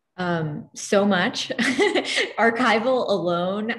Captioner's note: laughs